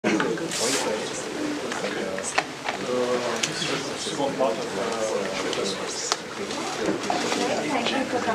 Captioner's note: background chatter